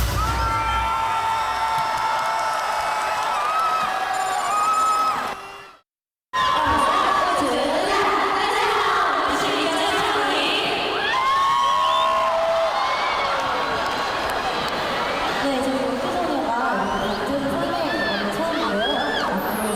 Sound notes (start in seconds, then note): 11.1 cheers